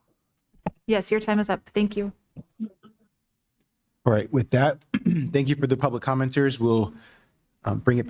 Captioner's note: clears throat